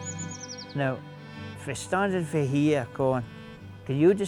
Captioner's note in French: Gazouillis d'oiseaux